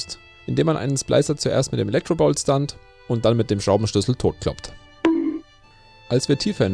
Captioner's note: bonk